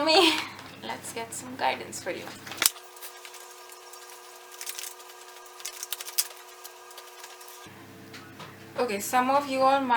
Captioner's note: shuffling in chipmunk